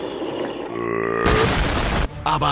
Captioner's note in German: lautes Rülpsen